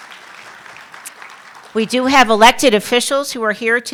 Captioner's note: applause